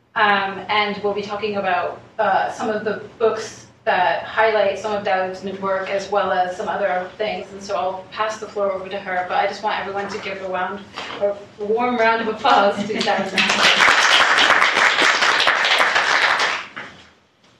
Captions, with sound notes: and will be talking about some of the books that highlight some of Daoud's new work as well as some other things. And so, I'll pass the floor over to her, but I just want everyone to give a warm round of applause to Daoud Nassar. (crowd applauds)